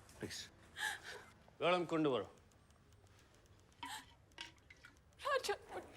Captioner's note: speaking foreign language